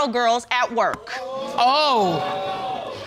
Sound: audience exclaims

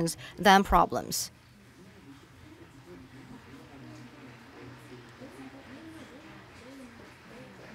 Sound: applause

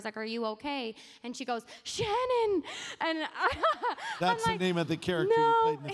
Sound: laughs

